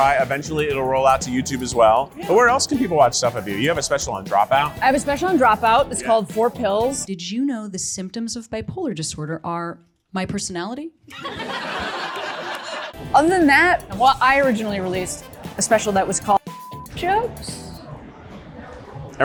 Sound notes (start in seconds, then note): 11.1 audience laughs; 16.4 beep